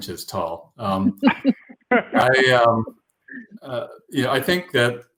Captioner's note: laughter